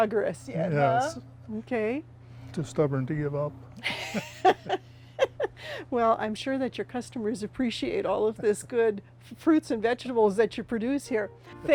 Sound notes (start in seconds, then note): 3.8 laughter